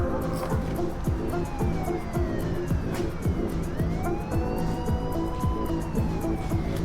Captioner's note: dramatic music; alarms blaring